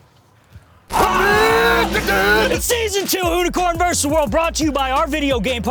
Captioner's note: penny whistle toots; yells